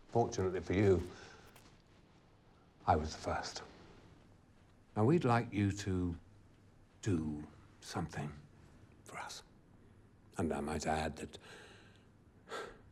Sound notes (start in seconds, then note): 11.5 sighs